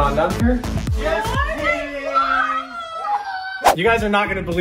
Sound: kids cheering

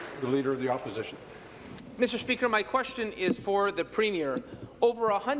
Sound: applause

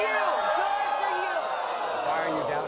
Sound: audience shouts

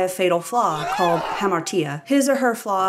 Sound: surprised scream

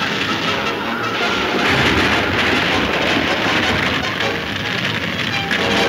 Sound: wagon top crashing; exciting music

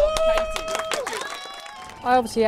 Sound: applause

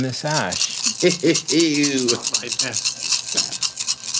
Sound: dice rattling

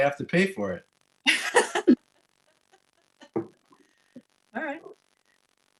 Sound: laughing

